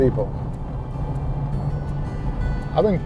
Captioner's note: truck engine purring